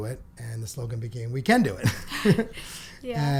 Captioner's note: laughs